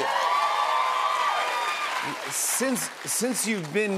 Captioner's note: cheers and applause